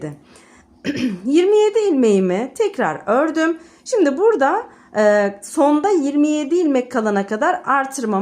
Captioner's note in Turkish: boğazını temizler